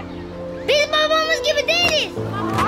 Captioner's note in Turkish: Hep bir ağızdan